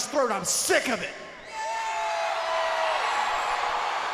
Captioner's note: crowd cheers